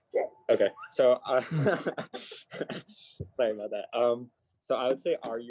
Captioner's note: chuckles